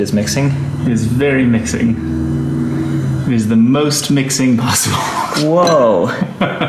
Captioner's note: laughing; laughs